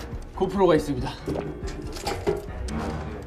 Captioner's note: swallows